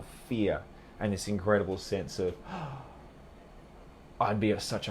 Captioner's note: gasps